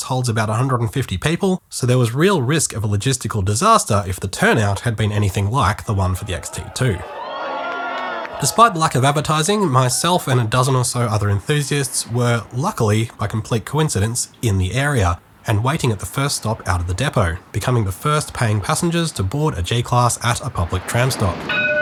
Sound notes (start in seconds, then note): 7.2 XT2 enthusiast noises